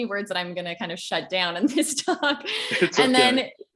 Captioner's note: laughs